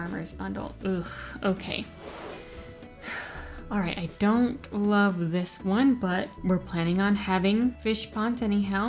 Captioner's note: sigh